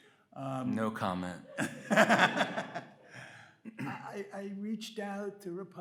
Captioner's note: Bob laughs